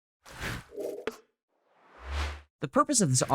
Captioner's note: air whooshing